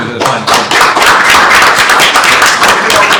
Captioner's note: applause